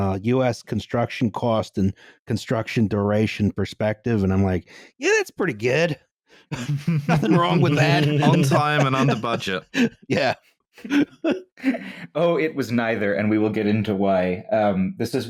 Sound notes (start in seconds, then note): 6.5 laughter